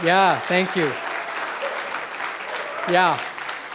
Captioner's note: applause